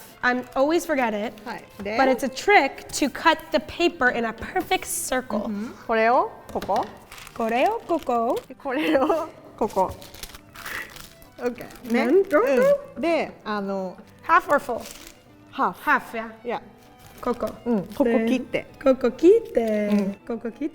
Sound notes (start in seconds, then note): 6.0 speaking in Japanese; 12.3 speaking in Japanese; 17.3 speaking in Japanese